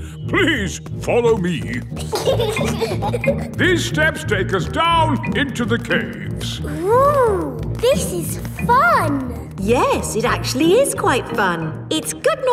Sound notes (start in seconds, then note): 1.9 giggling